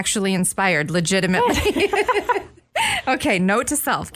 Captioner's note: laughs